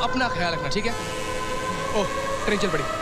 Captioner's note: Train horn blares